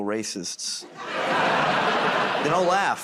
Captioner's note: laughter